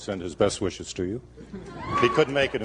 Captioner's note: laughter